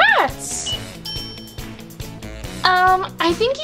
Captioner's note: bell dings